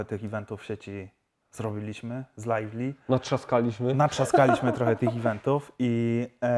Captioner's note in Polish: śmiech